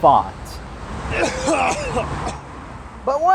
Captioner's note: coughing